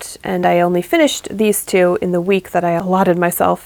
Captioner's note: none